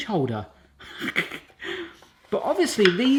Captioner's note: laughing